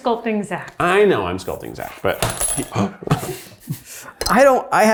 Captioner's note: gasps